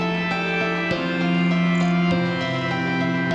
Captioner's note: none